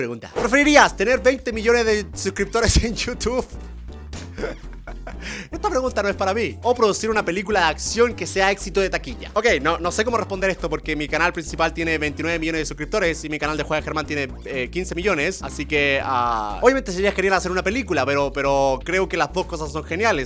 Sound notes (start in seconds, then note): 4.3 laughter